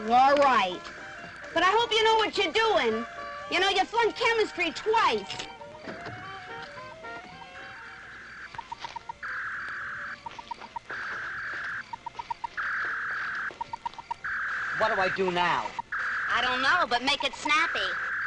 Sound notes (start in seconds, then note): 7.3 beeping; 7.3 whirring